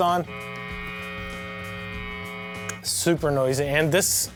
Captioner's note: loud humming